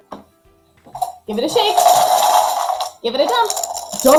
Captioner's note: counters rattling